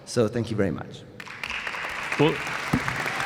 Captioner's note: applause